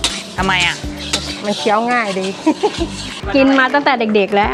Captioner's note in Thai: เสียงหัวเราะ